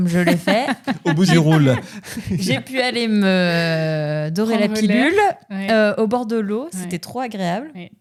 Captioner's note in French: rires